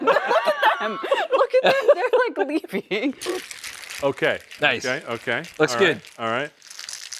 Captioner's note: laughter